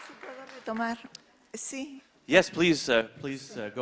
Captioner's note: speaking in foreign language